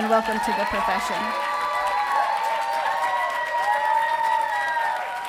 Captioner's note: audience cheering